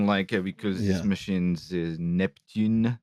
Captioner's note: French voice